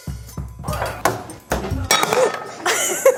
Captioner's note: mellow music; clanging; gasping; laughing